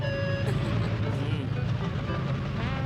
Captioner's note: laughs